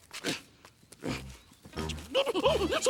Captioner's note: grunting